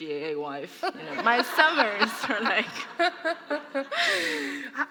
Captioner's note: laughter